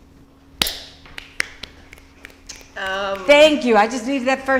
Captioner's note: clapping and snapping